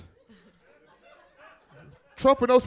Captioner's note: audience laughs